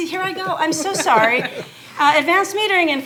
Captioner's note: laughing